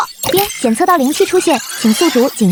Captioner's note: ding!